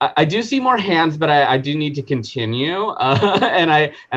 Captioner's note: chuckling